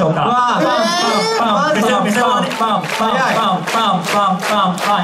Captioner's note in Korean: 박수